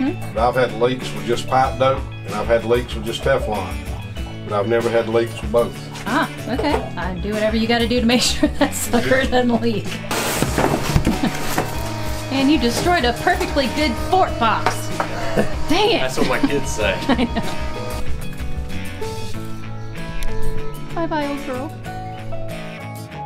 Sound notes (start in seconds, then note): 14.9 laughing